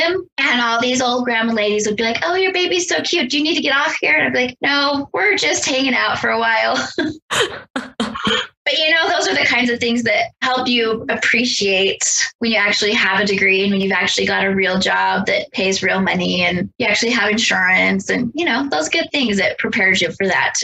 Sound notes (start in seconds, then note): 7.2 both laugh